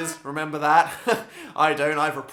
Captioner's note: laughs